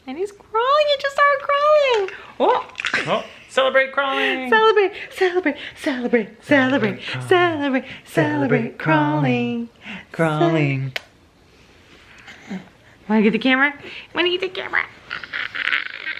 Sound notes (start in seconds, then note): 10.9 smooches